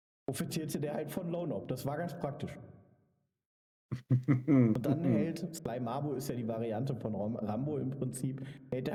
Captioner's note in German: gelächter